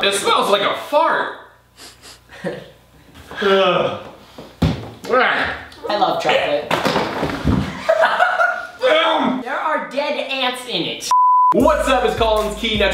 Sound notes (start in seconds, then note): 1.7 Sniffs; 4.0 गैगिंग; 6.7 Thudding; 8.2 काढ़ और कराह रही है; 11.1 बीप; 11.5 बास भारी इलेक्ट्रॉनिक संगीत